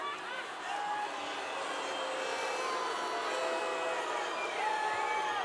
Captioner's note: audience booing